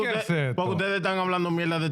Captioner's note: speaking In Foreign Language